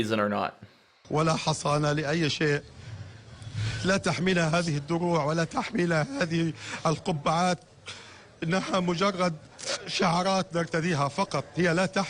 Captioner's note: speaking-arabic